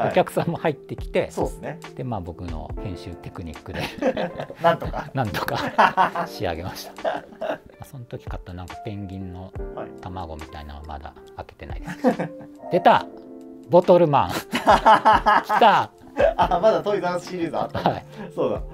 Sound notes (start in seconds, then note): 3.7 laughing; 14.3 laughing